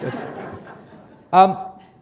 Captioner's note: laughter